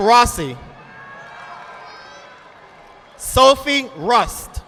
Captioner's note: audience applauding